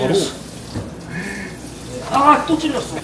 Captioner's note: gasps